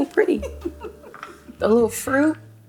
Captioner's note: laughs